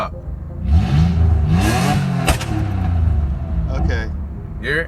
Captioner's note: car engine revving with pop